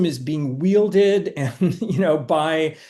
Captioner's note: chuckling